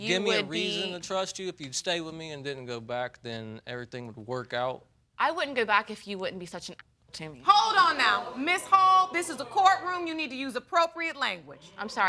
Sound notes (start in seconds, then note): 7.6 audience gasps